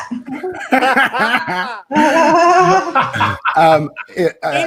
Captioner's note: participants laughing